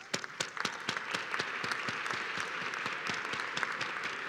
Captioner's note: applause